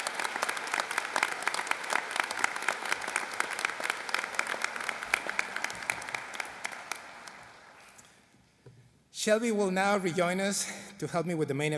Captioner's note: applause